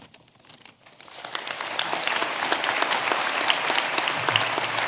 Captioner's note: audience applauding